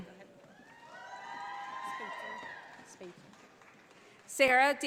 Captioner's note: audience applauding